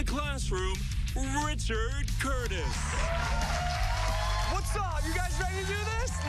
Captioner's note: cheers and applause